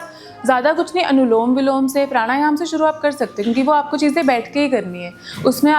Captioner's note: alternate breathing; breathing exercise